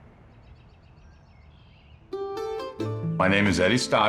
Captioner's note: birds chirping